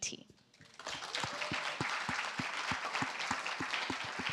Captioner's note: applause